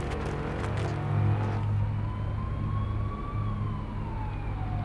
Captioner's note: sirens blaring